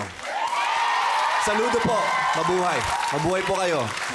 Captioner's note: applause, cheering